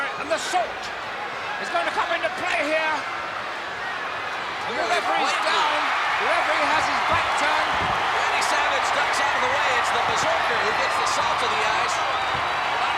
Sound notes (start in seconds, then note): 5.8 crowd cheering; 7.6 footsteps plodding